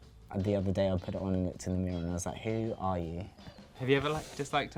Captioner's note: murmurs